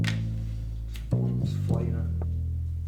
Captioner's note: mutters to self